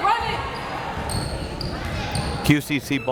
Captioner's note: crowd members shouting